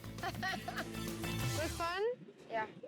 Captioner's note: laughs